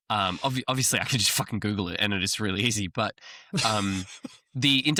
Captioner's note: laughs